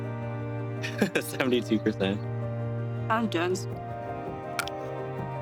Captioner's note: laughs